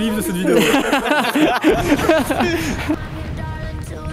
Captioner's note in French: rires